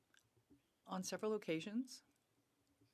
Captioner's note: speaking French